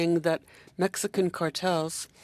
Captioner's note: speaking in French